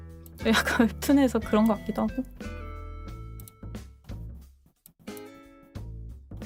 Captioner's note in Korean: 목을 가다듬음